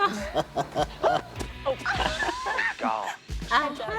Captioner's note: laughs